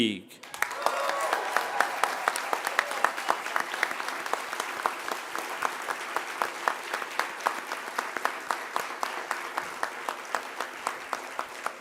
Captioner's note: applause